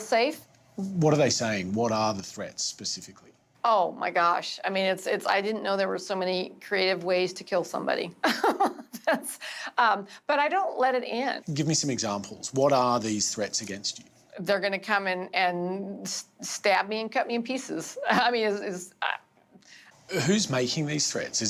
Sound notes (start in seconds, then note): 8.6 laughs